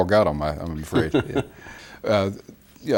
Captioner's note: laughs